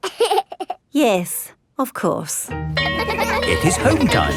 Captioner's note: giggles; school bell rings